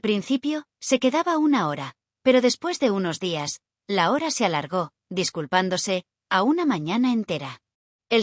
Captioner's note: apologetically